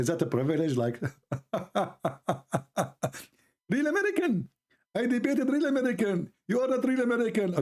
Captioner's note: Ketawa